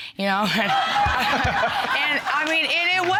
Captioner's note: audience laughing